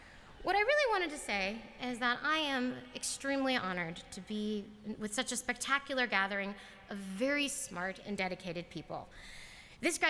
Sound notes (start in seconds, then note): none